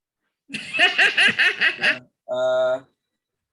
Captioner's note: laughs